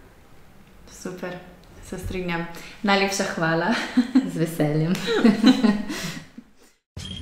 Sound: laughs

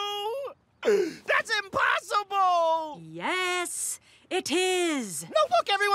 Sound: sobs

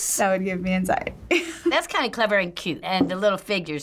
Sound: chuckles

